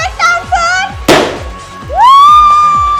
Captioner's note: boom